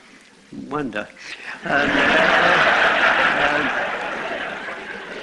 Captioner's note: laughter